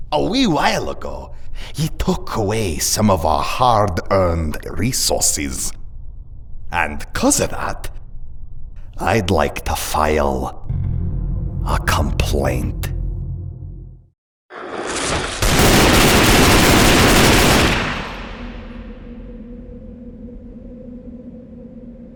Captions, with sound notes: A wee while ago, ye' took away some of our hard earned resources! And 'cuz 'a that... I'd like to file... A complaint. [Gunfire]